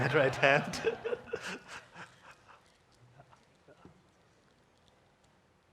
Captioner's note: congregation laughing